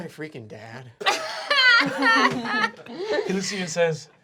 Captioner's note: laughing